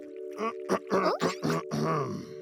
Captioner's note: clearing throat